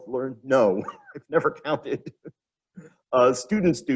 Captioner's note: laughs